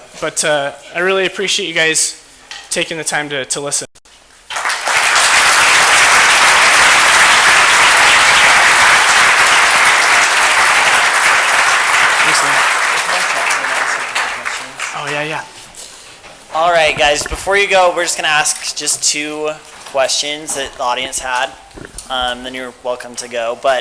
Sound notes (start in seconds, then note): 4.1 applause